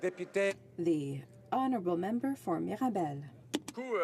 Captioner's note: speaking French